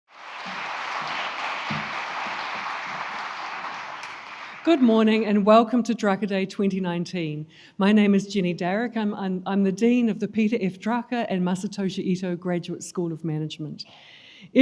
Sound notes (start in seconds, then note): 0.0 crowd applauds